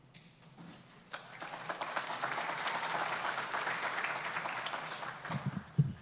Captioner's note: applause